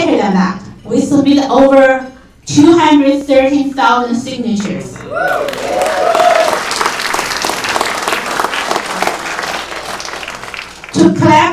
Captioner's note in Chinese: 掌声